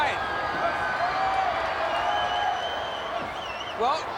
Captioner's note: audience applauding and cheering